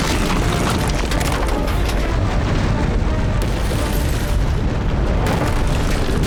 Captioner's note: gunshot